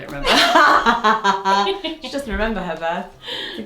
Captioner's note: both laughing